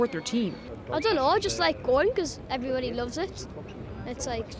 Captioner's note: none